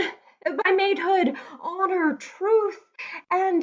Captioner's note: none